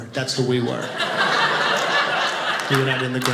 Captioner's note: audience laughing